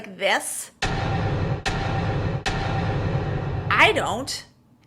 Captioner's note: banging sound